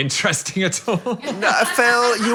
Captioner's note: laughs